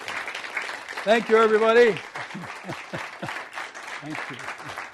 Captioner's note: chuckles